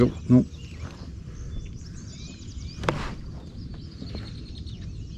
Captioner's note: birds chirping